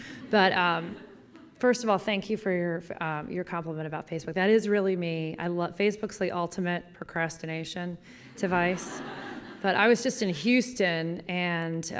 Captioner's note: laughter; laughter